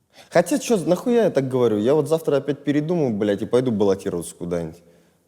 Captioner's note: none